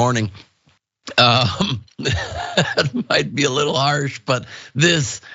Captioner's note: laugh